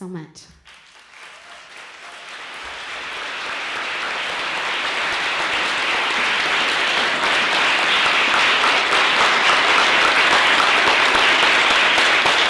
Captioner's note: applause